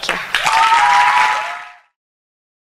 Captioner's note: applause